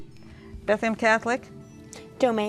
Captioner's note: ding